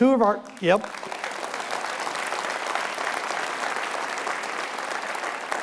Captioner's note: audience applauding